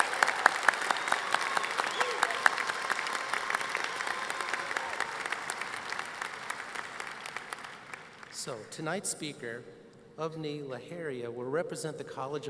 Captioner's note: applause